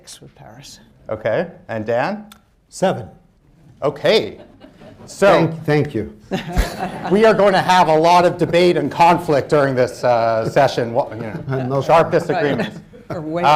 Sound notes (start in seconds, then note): 6.2 laughter; 10.4 laughter